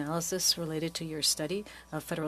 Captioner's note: speaking French